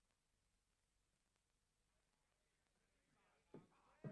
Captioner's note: shouting from downstairs